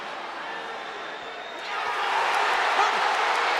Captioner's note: crowd cheering